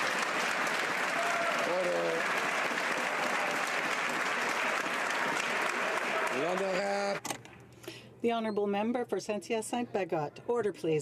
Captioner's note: some Applause